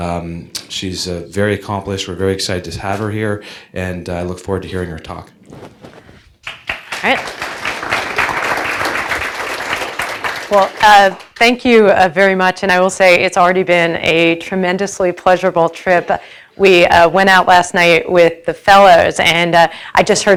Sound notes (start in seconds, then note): 6.4 applause